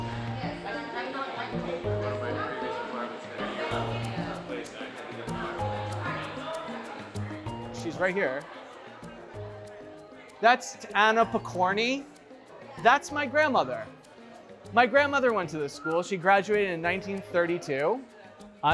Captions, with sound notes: [people chattering] - She's right here. That's Anna Pokorny. That's my grandmother. My grandmother went to this school. She graduated in 1932.